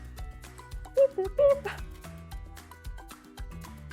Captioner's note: laughter